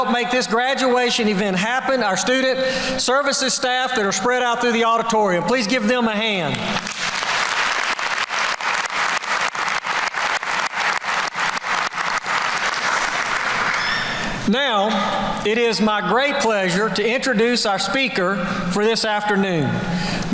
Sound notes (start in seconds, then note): 6.7 applause